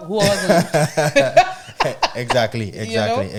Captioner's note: laughing